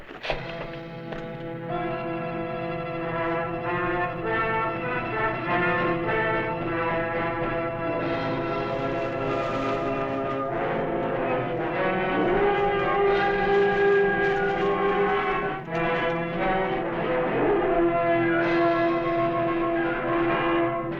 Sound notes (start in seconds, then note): 0.2 suspenseful music; 8.6 rustling